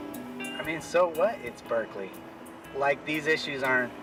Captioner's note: voiceover